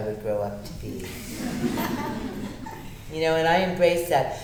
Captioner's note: audience laughter